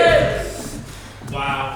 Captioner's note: audience: “BOO!”